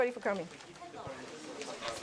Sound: indistinct conversation

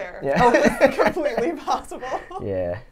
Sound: laughs

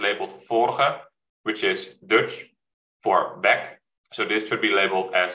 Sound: speaking dutch

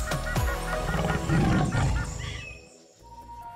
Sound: birds chirp; tiger growls

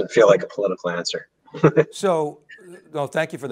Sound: chuckles

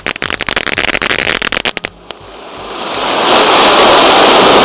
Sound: fireworks crackling; fireworks sizzling

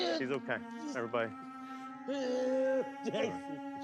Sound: groans

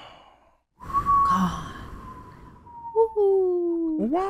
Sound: whistling

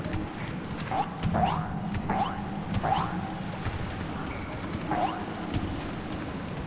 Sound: jump sound

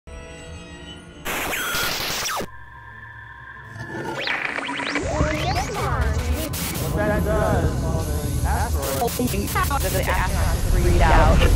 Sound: sound Effects

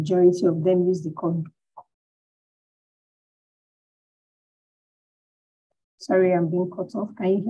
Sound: audio cuts out

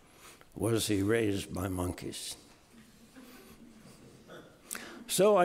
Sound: audience laughing

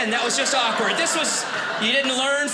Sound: audience laughing

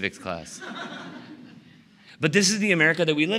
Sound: laughter

